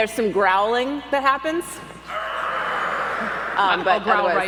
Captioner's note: audience growls